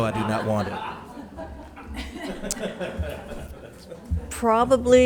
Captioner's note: members laughs